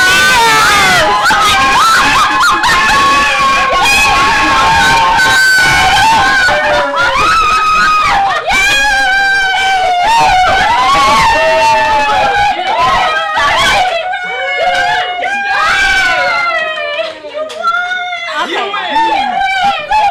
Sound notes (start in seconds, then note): 0.0 cheers; 0.0 screams; 7.7 screams